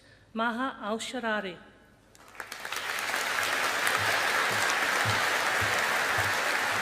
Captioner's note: audience applauding